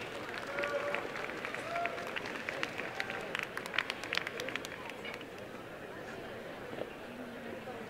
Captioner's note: applause